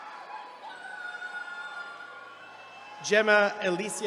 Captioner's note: attendees cheering